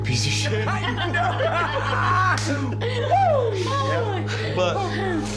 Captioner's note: laughter